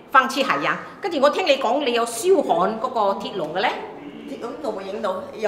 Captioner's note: Cantonese